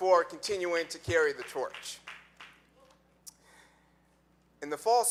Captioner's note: audience clapping